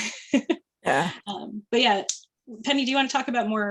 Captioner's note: chuckling